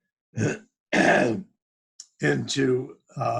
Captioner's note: clears throat